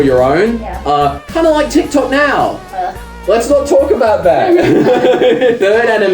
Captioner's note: both laugh